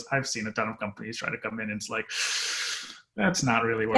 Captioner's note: inhales loudly